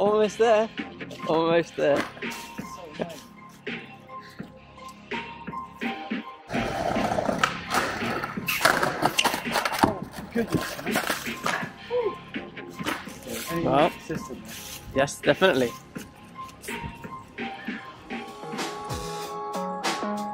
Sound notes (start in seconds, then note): 6.4 skateboard rolling; 17.1 soft upbeat music